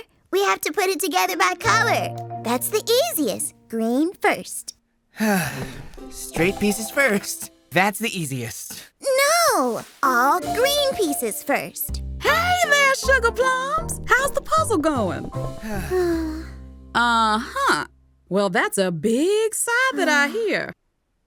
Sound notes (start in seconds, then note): 15.6 sighing